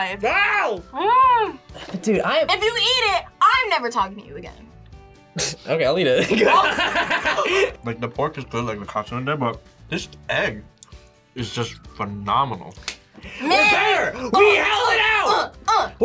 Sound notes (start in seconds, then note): 5.0 scoffs; 6.2 laughs